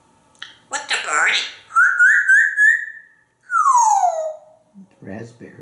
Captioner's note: whistling